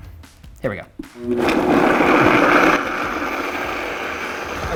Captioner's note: blender whirs